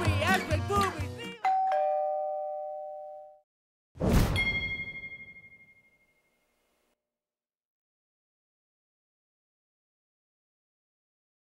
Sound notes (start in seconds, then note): 1.4 doorbell ringing